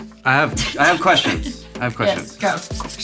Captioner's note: laughs